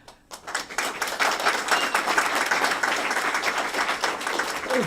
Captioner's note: applause